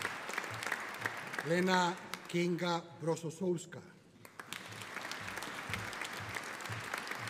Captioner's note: audience applauding